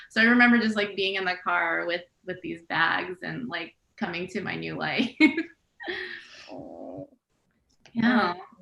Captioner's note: laughs